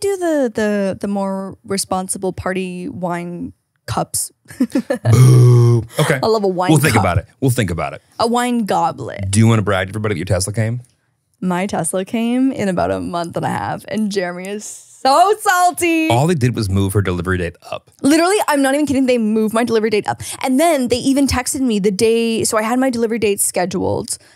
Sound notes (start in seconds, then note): 4.6 laughing